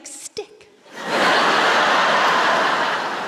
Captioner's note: laughter